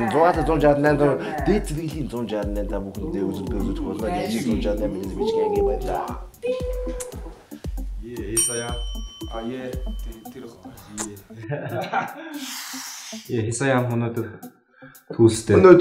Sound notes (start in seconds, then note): 8.3 ding